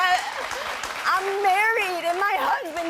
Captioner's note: audience applauding